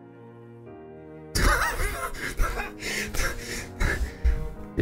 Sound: laughing

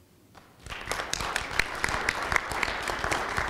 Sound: applause

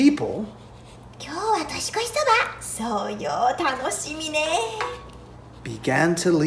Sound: market patrons speaking in Japanese

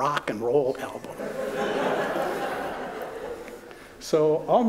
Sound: laughter

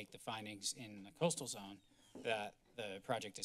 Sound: door opens

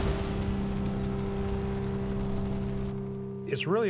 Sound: cannon shots exploding; fire crackling

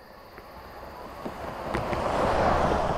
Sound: car drives past

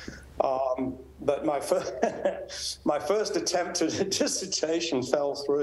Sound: laughs

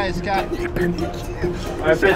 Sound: Montembeault whispering

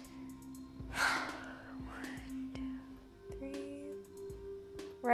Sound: sighs

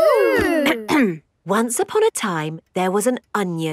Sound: clears throat

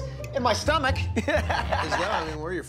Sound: chuckles

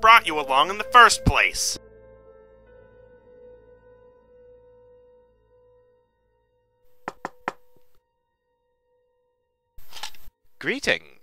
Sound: knocks on door

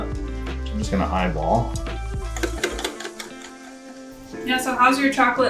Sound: whisk clinks against bowl

